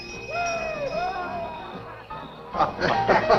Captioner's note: voices clamoring; men laughing